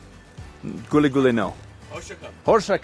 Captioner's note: speaks foreign language; responds in foreign language